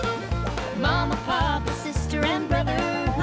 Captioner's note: laughing